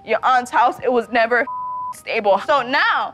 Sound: beep

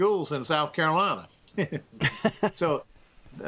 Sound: laughs

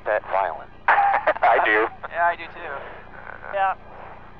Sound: laughter

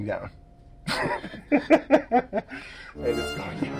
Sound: laughs

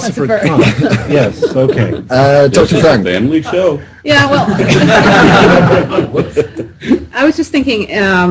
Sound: more heartless laughter from the baby eating atheists

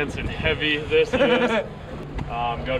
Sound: laughter

